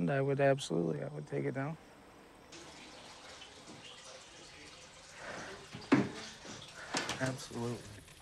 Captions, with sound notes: I would absolutely. I would take it down. (water trickles) Absolutely.